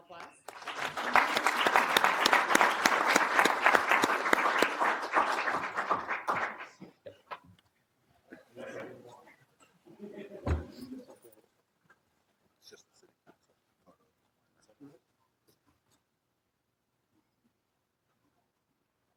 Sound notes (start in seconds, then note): 6.4 applause